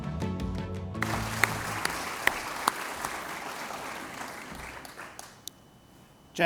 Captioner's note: applause